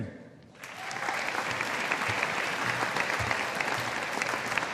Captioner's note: audience applauding